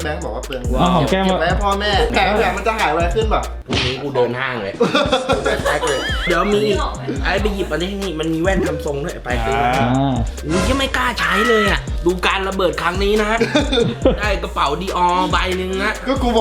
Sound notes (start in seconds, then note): 4.7 laughing; 13.3 chuckles